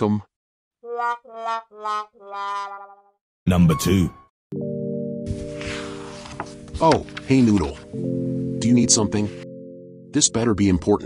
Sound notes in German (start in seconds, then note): 4.2 Seiten durchblättern